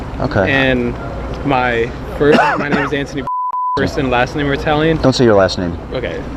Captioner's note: beep